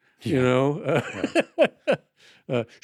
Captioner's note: laughs